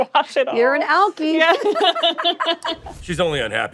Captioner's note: laughter